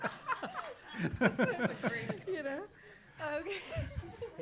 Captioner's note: laughter